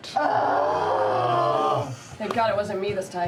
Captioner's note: groaning